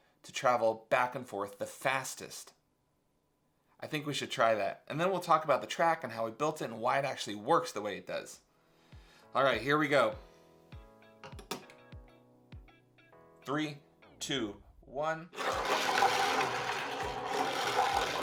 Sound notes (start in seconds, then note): 11.3 upbeat music; 15.8 balls rattle